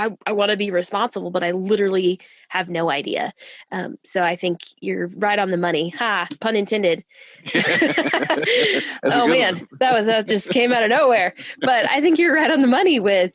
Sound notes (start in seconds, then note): 7.4 laughter